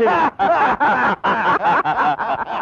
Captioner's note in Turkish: Kahkahalar